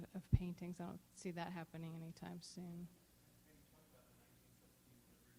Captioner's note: silence